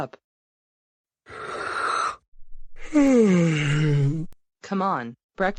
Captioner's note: yawning